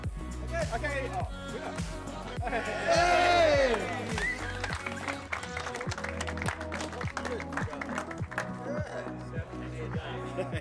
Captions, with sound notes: Eh... OK! Oh its you, yeah!!!!!!! [CROWD CLAPPING]